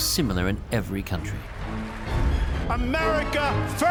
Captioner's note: cheering